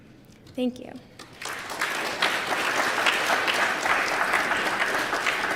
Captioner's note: applause